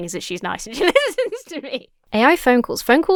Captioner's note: laughs